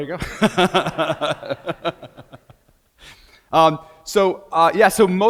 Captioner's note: laughs